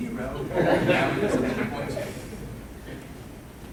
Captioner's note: laughing